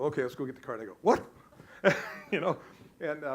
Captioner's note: laughs